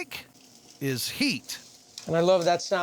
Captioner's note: sizzling sound